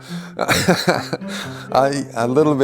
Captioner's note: laughs